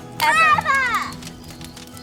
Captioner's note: fire crackling; girl cheers